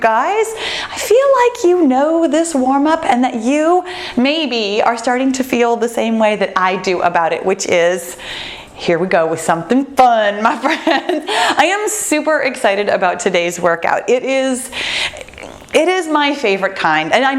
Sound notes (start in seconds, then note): 10.9 laughs